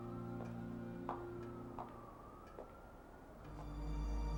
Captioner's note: sirens wailing